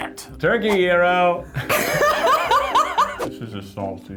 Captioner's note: laughing